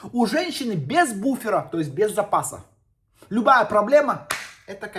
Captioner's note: stutters